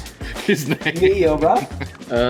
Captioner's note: chuckling